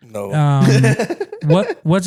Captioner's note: laughing